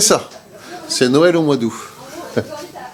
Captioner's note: laugh